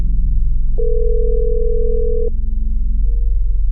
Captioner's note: phone ringing